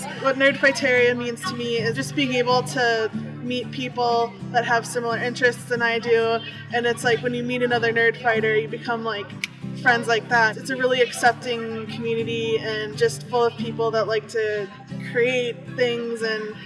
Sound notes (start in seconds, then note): 9.3 finger snap